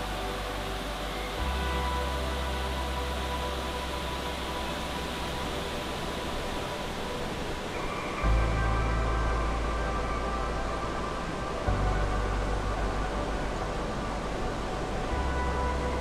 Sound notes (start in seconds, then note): 3.7 water rushing; 8.4 gentle melodious music